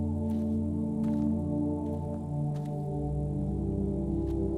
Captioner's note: grass crunching